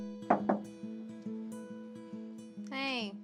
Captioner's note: knocking